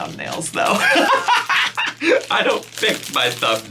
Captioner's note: laughs